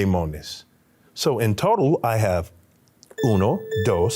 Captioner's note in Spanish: hablando español